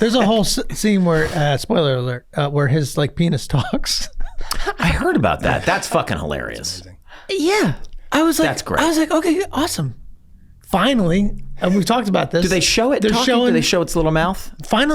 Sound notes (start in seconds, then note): 4.1 laughs